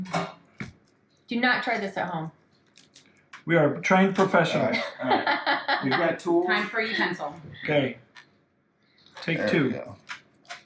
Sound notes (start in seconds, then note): 4.5 laughing